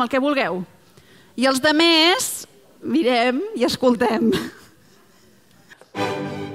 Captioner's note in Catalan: riures